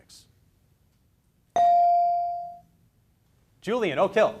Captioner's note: beep